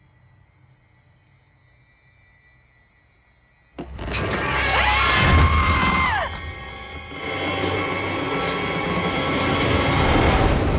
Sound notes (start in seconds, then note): 4.1 screaming; 4.3 startling sound effects; 8.4 tense music